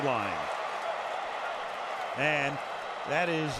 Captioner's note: cheering